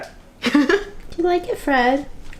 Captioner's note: laughs